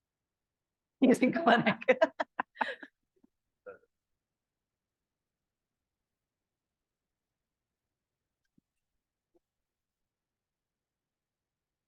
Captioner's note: laughing